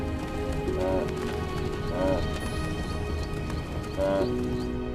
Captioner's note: wildebeest braying